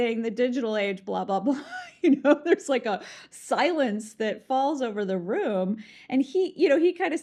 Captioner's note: laughs